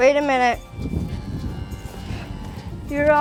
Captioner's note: cow moos